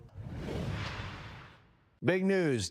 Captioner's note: logo whooshing